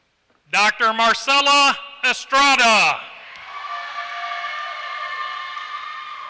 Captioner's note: applause